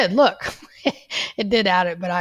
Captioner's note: laughs